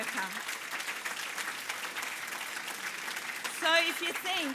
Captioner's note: applause